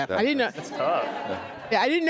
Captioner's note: audience laughs